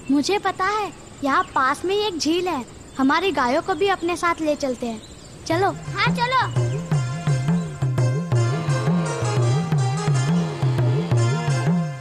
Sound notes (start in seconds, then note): 8.3 cow moos